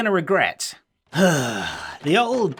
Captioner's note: sigh